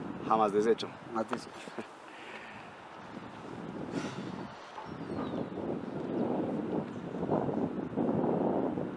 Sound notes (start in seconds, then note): 6.5 wind gushing